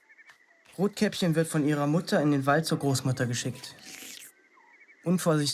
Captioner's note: voiceover